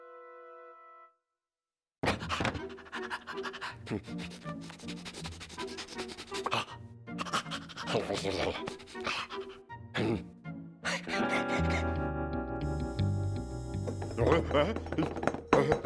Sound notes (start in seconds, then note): 2.0 panting; 4.6 sniffing; 7.1 panting; 10.9 laughing